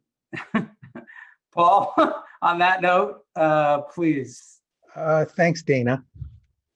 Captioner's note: laughs